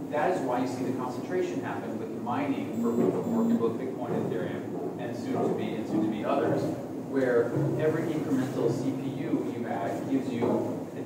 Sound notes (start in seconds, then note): 2.8 camera beep